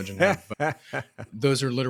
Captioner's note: laughing